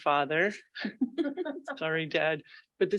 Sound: board members laughing

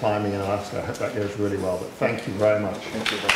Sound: applause

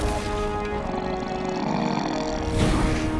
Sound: growling

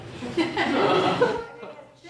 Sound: laugh

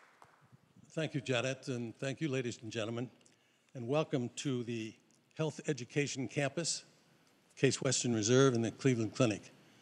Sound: applause

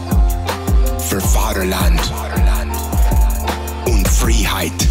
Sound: Jocko speaks in German

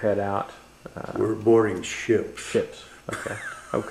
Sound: laughs

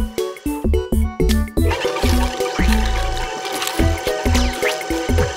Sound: grinding

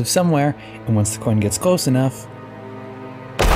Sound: boom

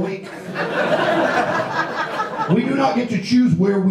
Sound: audience laughs

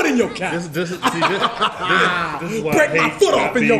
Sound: laugh

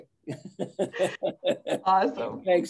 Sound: giggling

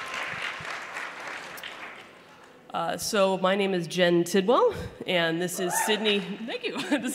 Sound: audience woots

